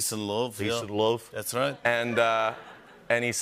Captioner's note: laughter